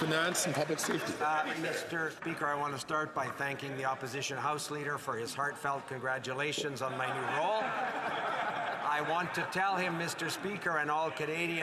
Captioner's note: some Applause